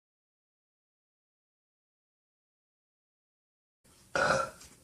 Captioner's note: burp